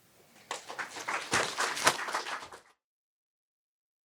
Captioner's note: applause